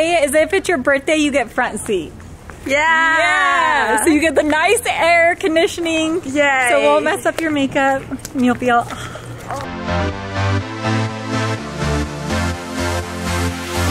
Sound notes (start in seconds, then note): 8.9 sighs; 9.5 upbeat lively music continues